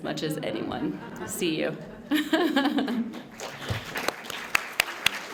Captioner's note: laughs; applause